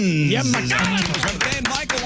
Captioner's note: clapping